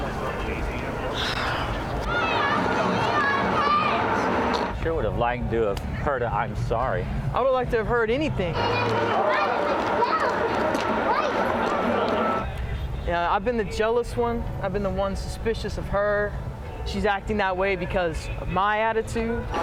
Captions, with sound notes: [SIGHS] Sure would have liked to have heard an I'm sorry. I would like to have heard anything. Yeah, I've been the jealous one. I've been the one suspicious of her. She's acting that way because my attitude.